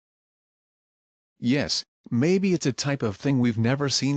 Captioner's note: voiceover